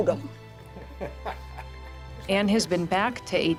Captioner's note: people laughing